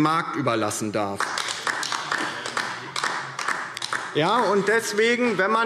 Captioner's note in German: Beifall DIE LINKE